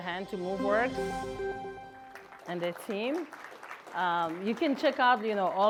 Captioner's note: applause